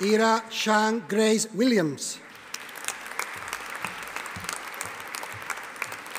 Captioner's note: audience applauding